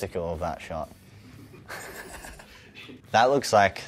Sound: laughs

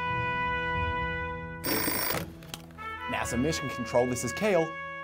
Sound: phone rings

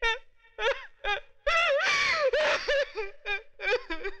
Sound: crying

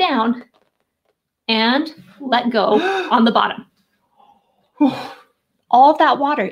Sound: gasps

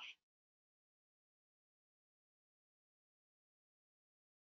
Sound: audio cuts out

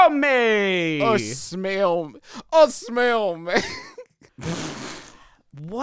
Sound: with italian accent; laughs

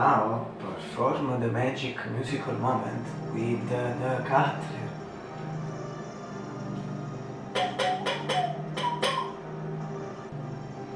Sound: whistle

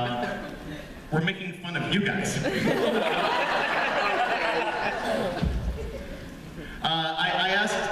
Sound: laughter

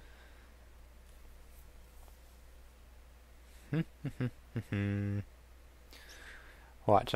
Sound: hums to self

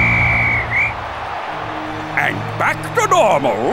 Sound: whistle blows

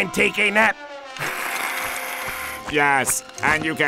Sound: hissing

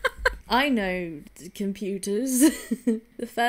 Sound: laughs

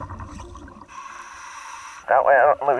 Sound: inhaling air

